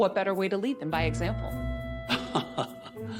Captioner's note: chuckleles